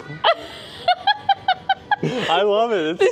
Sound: both laughing

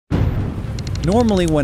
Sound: thunder booms

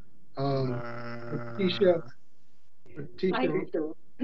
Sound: humming; voice distorted

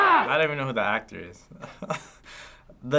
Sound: chuckling

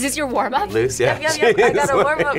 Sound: laughs

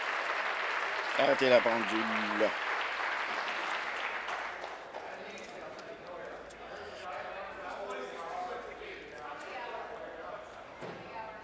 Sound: applause

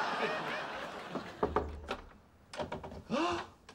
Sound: knocking; gasps

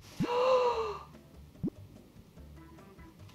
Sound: gasps

